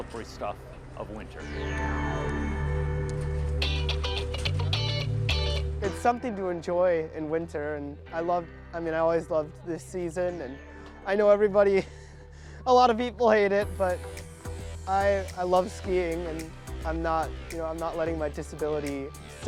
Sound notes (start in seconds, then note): 4.8 upbeat music; 14.5 chuckles